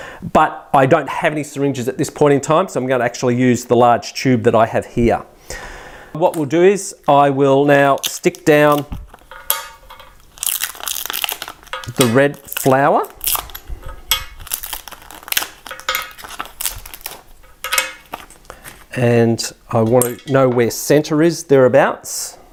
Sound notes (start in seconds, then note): 9.0 crackling; 9.2 clinking